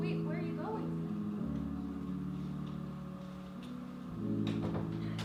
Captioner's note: rain sounds. Music starts